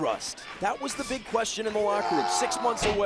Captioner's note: crowd chatter